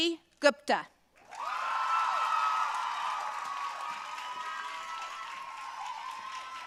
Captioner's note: audience cheering and applauding